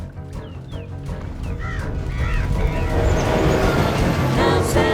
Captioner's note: crows cawing; female trio singing